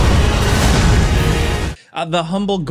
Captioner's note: attack whooshing